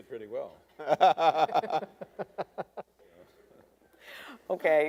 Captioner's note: debaters laughing